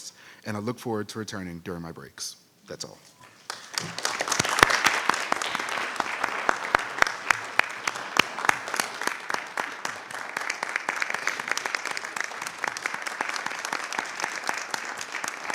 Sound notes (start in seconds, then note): 3.7 audience applauding